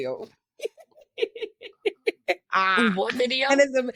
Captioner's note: laughs